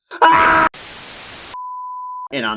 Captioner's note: screaming; static SFX; sine tone SFX